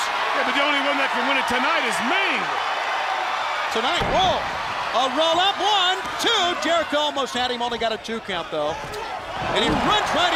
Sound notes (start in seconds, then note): 4.5 crowd cheering